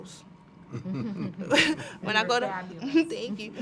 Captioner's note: laugh